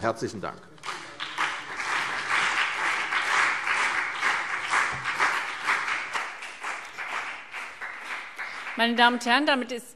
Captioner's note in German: Beifall CDU und BÜNDNIS 90/DIE GRÜNEN